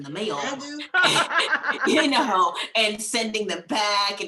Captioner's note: laughing